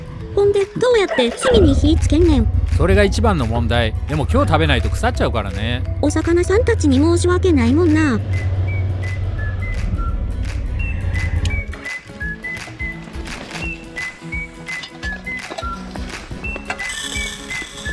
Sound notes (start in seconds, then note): 9.2 sound of motorcycle; 15.0 sound of measuring rice